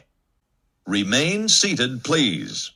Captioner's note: continues in Spanish